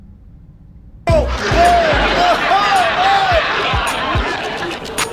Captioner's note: audience laughs